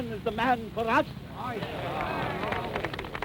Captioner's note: applause